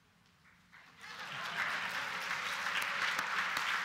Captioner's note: applause